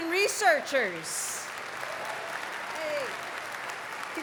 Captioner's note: cheering, applause